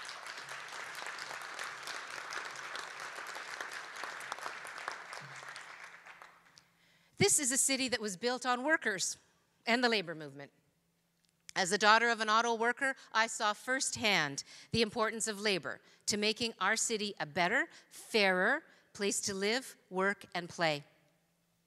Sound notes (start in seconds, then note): 2.6 applause